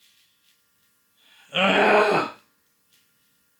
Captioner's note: grunting